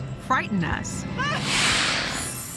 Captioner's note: shouts; hisses